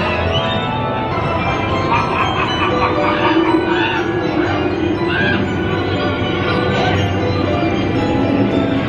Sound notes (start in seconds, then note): 1.4 evil laughter; 2.0 creepy music